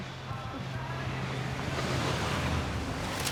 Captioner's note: large engine rumbles